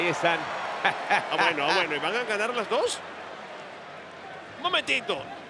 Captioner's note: laugh